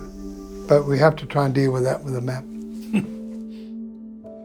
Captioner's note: laughs